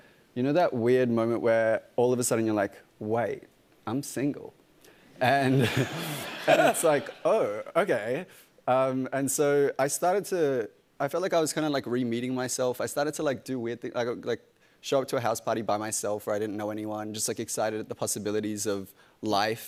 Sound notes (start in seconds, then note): 5.3 laughter